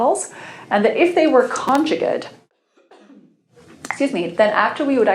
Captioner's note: coughs